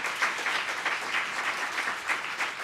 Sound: applause

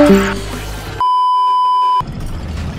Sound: beeeeeep

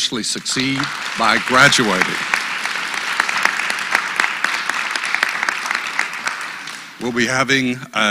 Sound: applause

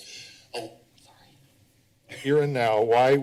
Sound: whisper

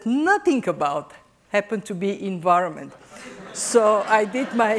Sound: laughter

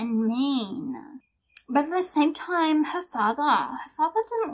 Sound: puts on a weird accent

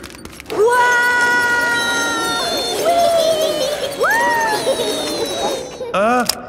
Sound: all yelling

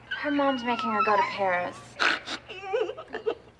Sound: Donna snorting, sobbing

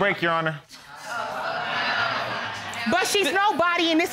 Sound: audience exclaiming

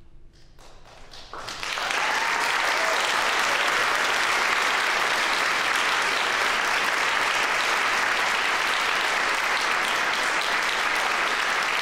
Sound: applause

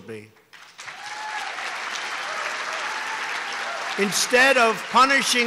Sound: applause

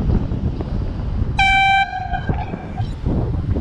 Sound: airhorn

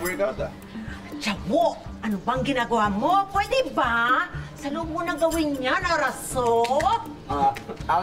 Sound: in Korean-ish

